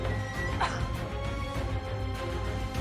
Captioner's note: strains; coughs